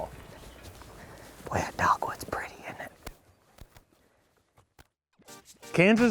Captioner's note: whispering